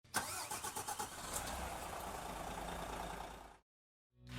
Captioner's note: engine revving